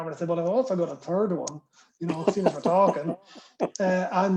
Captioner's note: laughter